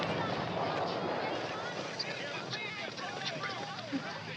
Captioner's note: whispering